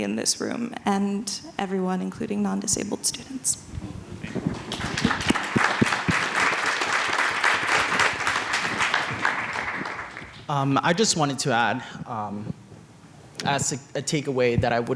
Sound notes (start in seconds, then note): 4.3 audience applauds